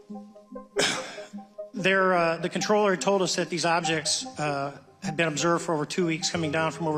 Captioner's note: coughs